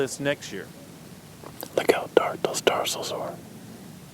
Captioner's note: whispering